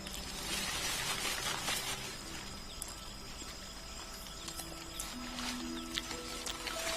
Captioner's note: leaves rustling; light music